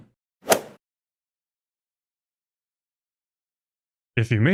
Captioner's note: golf ball hit sound